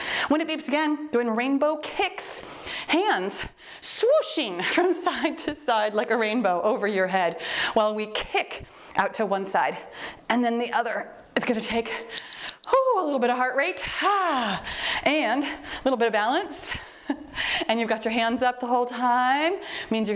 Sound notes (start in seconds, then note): 12.1 timer beeps; 12.9 exhales deeply